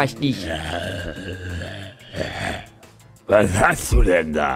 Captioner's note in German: böses Grummeln